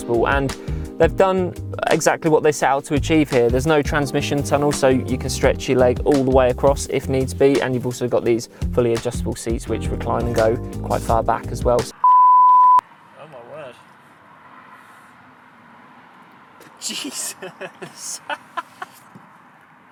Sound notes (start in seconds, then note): 12.0 signal tone beeping; 16.7 laughs